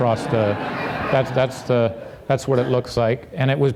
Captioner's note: audience laughing